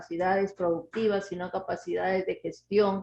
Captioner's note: speaking Spanish